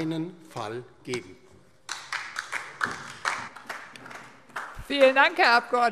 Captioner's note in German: Beifall DIE LINKE